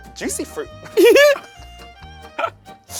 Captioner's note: laughing; bright bouncy music continues